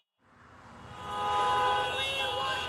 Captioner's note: cars honking